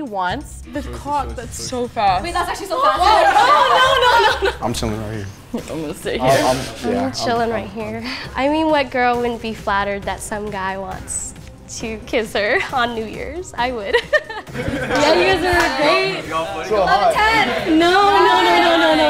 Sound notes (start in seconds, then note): 13.9 laughs; 14.5 group chatters